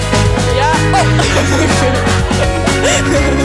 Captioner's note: collective laughter